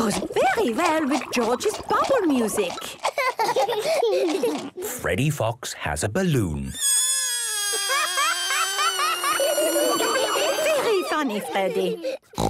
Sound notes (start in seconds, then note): 3.1 both laughing; 6.7 balloon air squealing